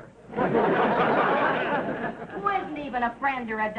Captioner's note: audience laughing